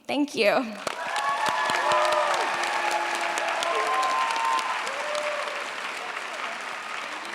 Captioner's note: cheers, applause